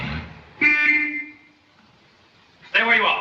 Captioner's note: car honks